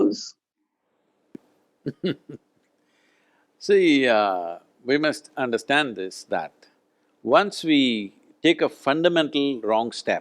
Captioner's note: laughs